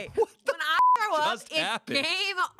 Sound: beep

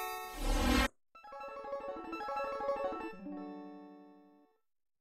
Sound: 16-bit chime playing

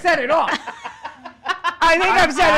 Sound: laughing

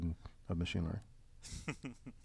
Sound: laugh

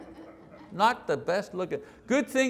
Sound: audience chuckles

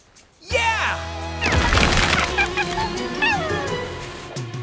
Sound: barking

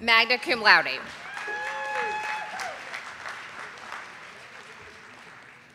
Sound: audience applauding

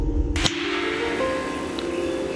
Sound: bang

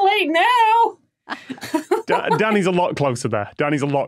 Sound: group cracks up

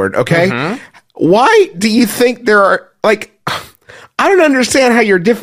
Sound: frustrated sigh

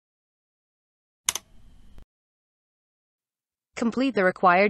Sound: click sound

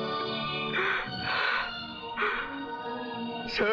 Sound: sobbing

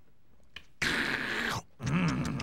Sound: slurps

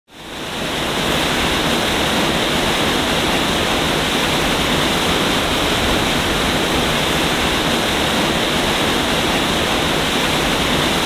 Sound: waterfall sounds, water flowing

